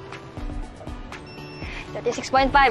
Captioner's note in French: scanner beeps